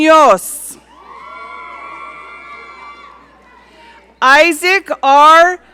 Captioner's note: audience cheering